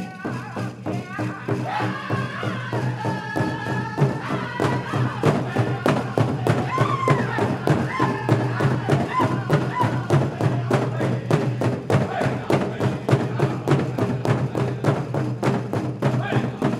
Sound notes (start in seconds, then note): 1.9 singers singing with high cadence; 4.8 drum beating more intensely; 7.0 lead singer chanting shouts